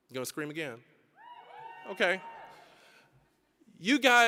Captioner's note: scattered cheering